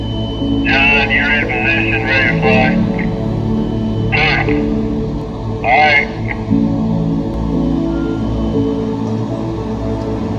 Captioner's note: construction crew preparation – talking in background